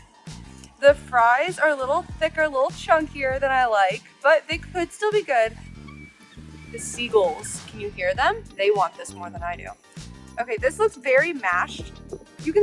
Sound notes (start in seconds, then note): 6.1 seagulls mew